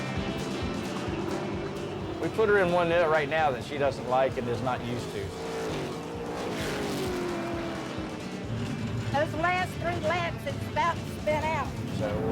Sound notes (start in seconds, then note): 5.7 engine revving